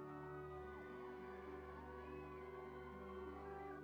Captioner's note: people cheering